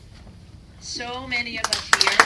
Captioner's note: applause